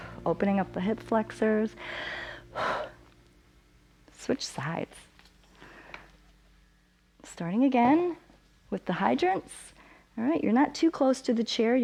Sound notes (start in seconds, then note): 1.8 inhales and exhales